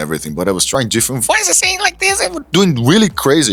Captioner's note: high-pitch voice